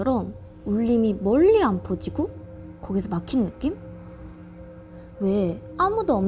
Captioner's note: A voice that feels stifling somehow